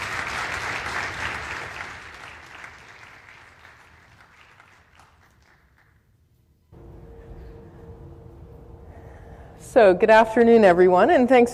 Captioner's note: applause